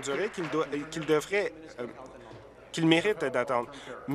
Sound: applause

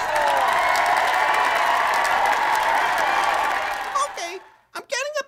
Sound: applause/cheer

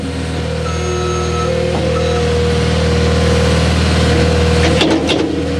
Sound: reverse signal beeping

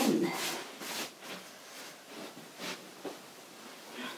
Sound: hands swishing

